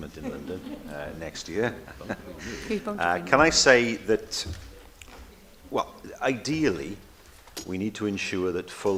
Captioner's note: laughter